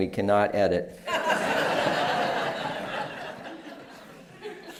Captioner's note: laughter